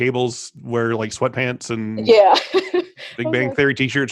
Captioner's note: laughs